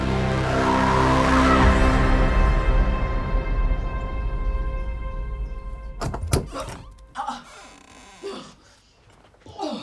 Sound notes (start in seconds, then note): 0.1 scream echoing; 2.2 music fades; 5.4 Anna retching; 5.9 door opens